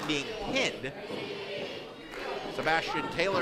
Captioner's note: crowd chanting "Petey"